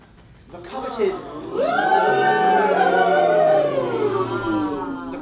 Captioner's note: oohing